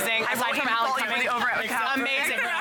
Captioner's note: crowd chatting